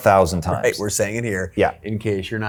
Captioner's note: chuckles